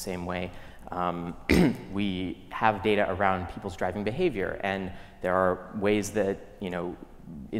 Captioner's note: cough